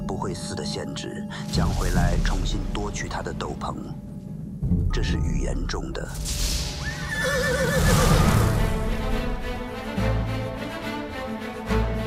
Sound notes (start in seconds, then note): 1.5 thunder crack; 6.8 horse neighs; 7.7 thunder crack; 7.8 title music